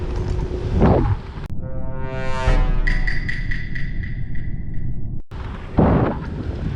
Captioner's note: Among Us sound